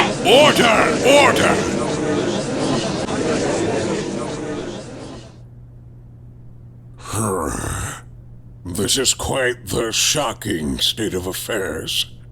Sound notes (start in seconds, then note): 2.2 gallery chattering!; 7.0 sigh